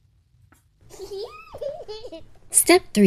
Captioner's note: baby laughing